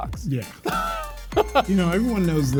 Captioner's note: laughs